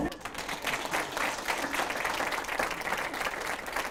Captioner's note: applause